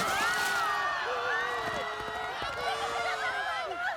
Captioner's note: screaming; townsponies screaming